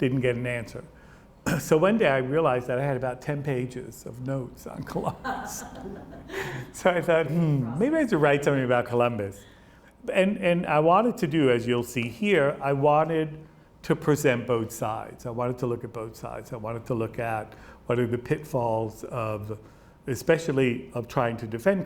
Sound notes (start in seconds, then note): 5.0 laughs